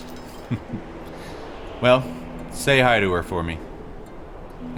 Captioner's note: chuckles